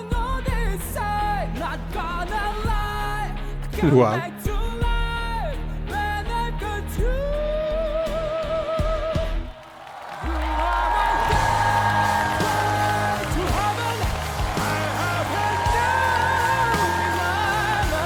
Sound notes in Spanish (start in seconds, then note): 7.8 ovación